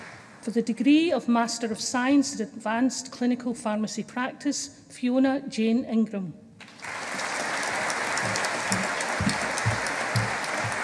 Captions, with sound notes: For the degree of Master of Science in Advanced Clinical Pharmacy Practise. Fiona Jane Ingram. (AUDIENCE APPLAUDING)